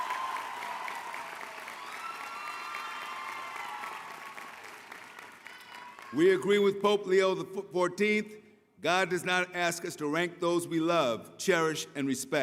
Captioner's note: applause